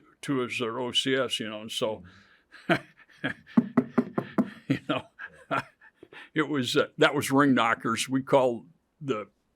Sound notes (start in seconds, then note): 3.0 laughs; 3.6 knocking; 4.2 chuckles